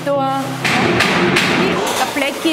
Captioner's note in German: wilde Klopfgeräusche